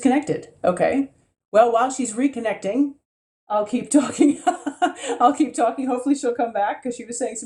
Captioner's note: laughs